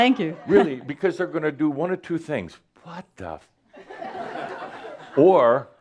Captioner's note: laughter